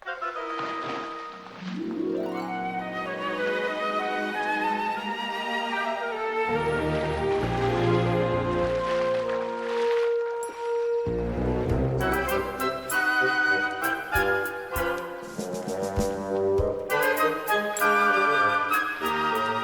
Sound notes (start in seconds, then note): 0.1 cheerful music; 7.0 water splashing; 12.3 cheerful music continues